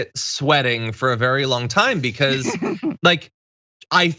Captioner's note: laugh